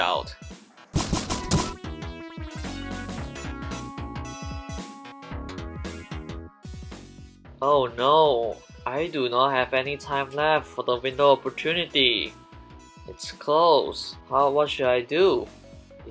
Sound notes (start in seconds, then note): 0.9 objective sfx; 0.9 suppressed rifles shots